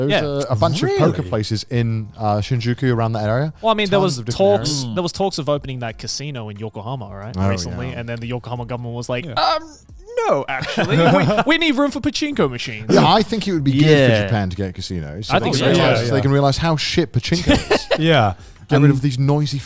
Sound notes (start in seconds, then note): 10.5 all chuckling; 17.3 laughs